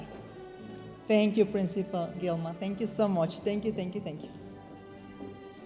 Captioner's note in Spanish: hablando en inglés